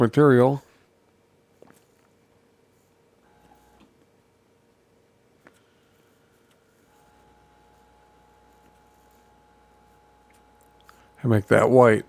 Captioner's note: silence